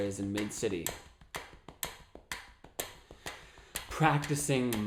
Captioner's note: tapping and ticking sound